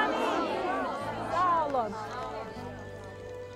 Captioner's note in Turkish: Hep bir ağızdan